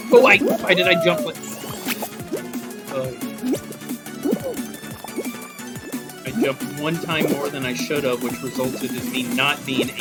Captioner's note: groan